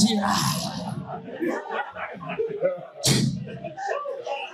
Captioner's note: audience laughing